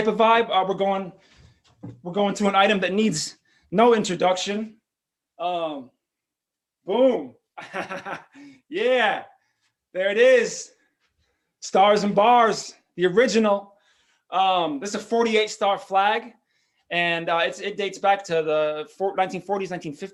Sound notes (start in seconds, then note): 7.5 laughs